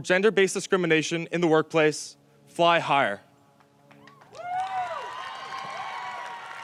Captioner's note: audience cheers